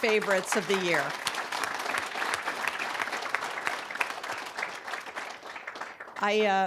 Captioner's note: applause